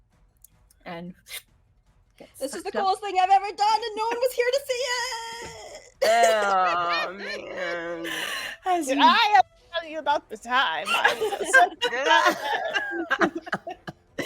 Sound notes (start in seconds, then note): 1.1 imitates suction sound; 6.0 laughing; 10.8 group laughing